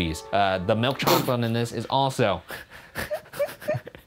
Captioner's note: laughs